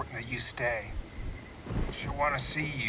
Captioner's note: thunder rumbling